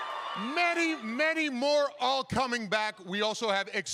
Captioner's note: cheering